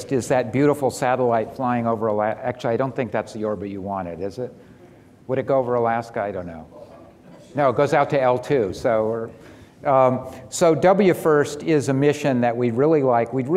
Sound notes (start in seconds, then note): 7.9 man speaking off mic